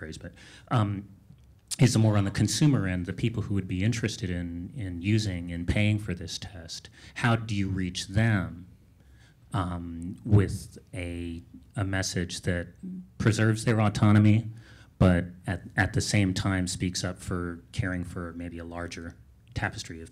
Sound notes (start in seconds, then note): none